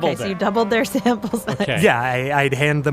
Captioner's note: laughs